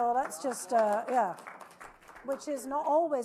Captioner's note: audience applauding